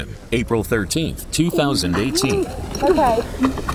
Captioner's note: groaning